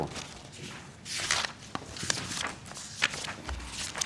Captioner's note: turning pages